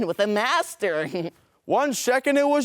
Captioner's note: chuckles